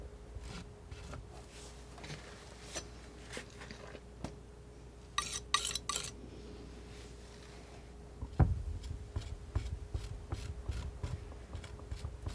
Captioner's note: tapping